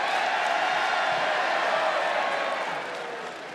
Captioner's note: crowd cheers